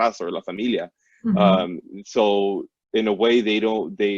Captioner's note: foreign language spoken